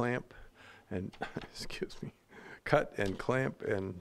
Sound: chuckling

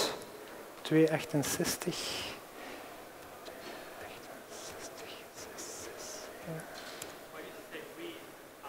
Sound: non-english speech

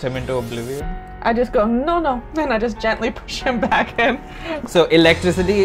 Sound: laughs

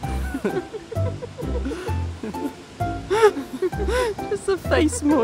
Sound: lighthearted music; laugh

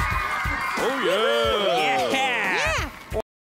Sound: cheering

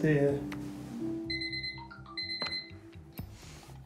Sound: alarm beeps

